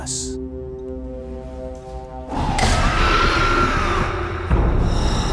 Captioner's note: creature growls